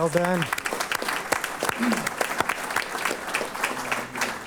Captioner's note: applause